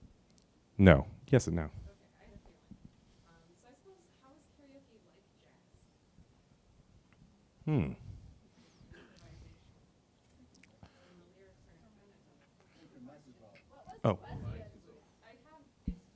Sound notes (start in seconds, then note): 9.8 crowd chattering